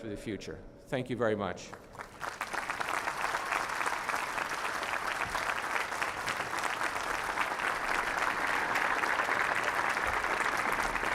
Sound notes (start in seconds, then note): 2.1 applause